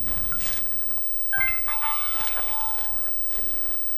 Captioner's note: electronic noise